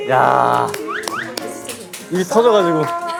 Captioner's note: clapping in celebration